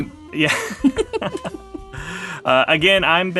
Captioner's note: all laughing; mid-tempo jazz music playing